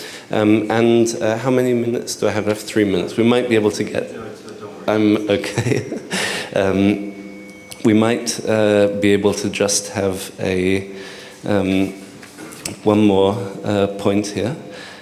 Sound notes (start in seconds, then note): 2.4 indistinct chatter; 5.2 chuckles